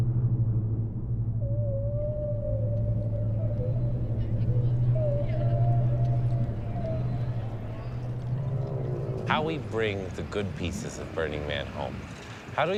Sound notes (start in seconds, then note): 2.3 whale calling